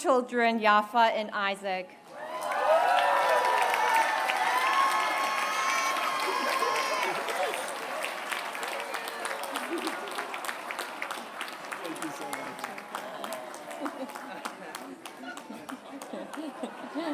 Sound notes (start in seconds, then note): 2.2 applause